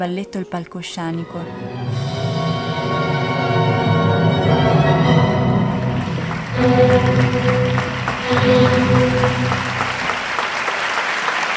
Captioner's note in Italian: Applauso